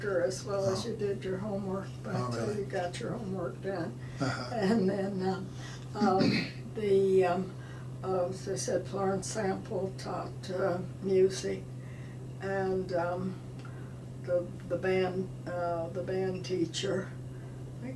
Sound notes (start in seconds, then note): 6.1 clears throat